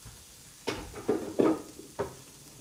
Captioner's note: the sound of putting away